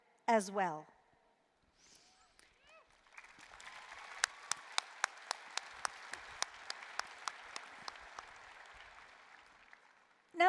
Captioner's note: applause